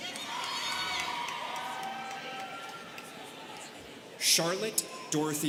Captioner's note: students cheering